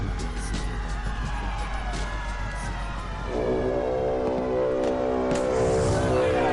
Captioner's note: people shouting; horn blows; people shouting